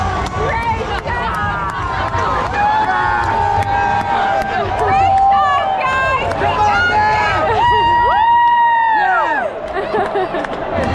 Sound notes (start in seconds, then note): 7.7 all cheering